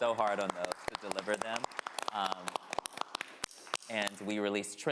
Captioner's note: all applauding